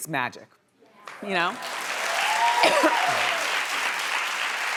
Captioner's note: audience cheering